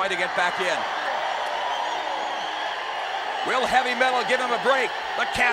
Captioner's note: applause